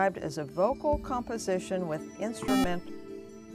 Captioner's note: buzzer